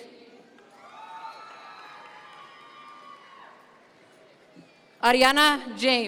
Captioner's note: audience members cheer